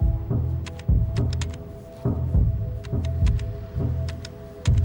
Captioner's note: buttons clicking